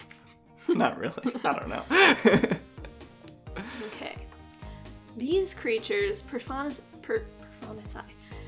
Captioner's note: laughs